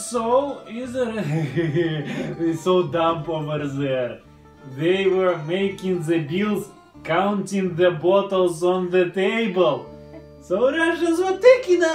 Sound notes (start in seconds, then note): 1.0 is laughing